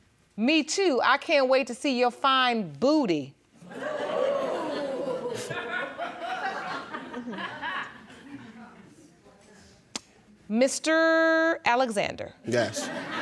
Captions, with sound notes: "Me too, I can't wait to see your fine booty." (AUDIENCE GASPING AND GIGGLING) Mr. Alexander. Yes.